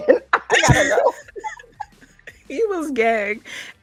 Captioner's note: laughing